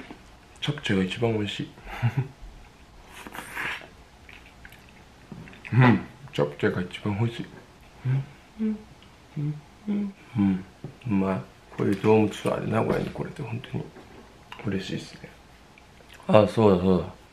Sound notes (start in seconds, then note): 3.1 slurping